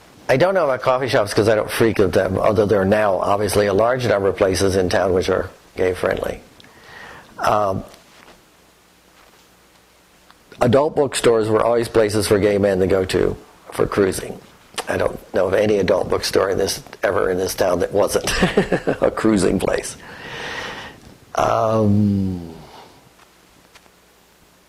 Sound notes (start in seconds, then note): 18.2 laughter